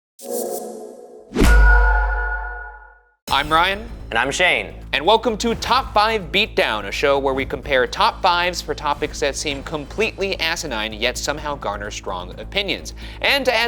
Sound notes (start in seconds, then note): 1.3 graphic thudding; 2.4 graphic chiming